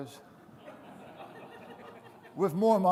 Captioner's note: audience laughing